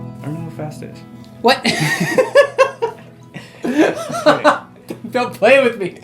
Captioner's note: both laugh